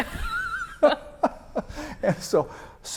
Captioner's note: laughs